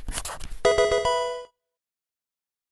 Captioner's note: writing; pokemon game sound